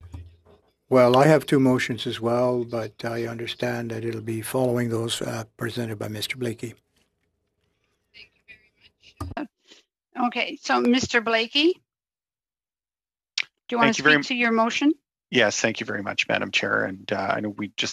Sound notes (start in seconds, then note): 4.6 speaking French